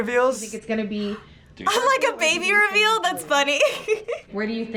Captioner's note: giggles